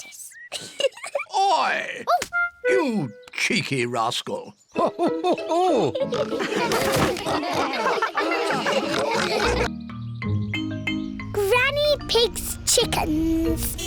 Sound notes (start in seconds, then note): 0.5 giggles; 4.7 all laughing